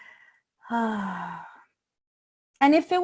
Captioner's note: sighing